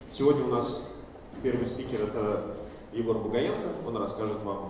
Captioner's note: speaking in foreign language